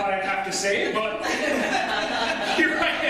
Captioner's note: audience laughter